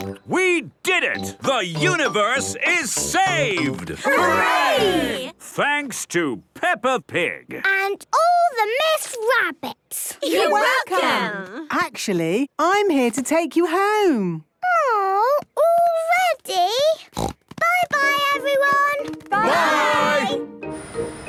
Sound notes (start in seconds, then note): 17.1 snort